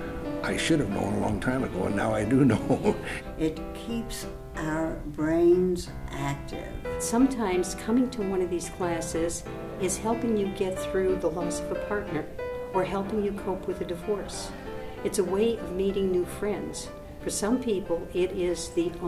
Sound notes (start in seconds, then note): 2.4 laughs